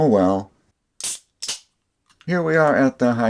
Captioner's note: beer opening sound